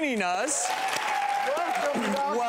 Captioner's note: audience applause